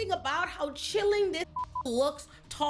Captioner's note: beep